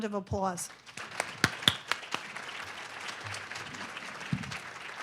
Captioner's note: audience clapping